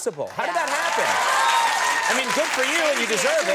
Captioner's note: audience applauding